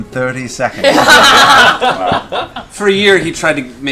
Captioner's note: laughter